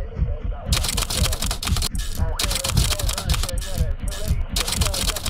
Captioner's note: typewriter clicking